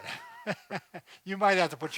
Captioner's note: laughing